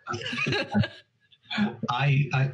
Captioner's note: both chuckle; sighs